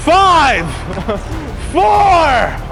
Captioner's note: laughs; cameraman laughing